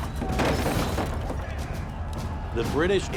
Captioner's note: crowd shouting indistinctly